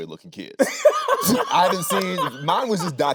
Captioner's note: Anthony laughing